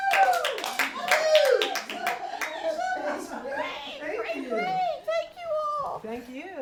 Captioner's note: applause